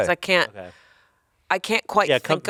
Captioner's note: none